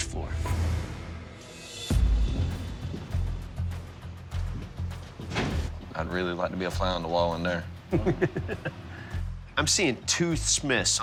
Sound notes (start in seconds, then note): 0.1 suspenseful music; 7.9 chuckles